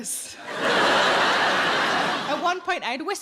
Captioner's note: audience laughing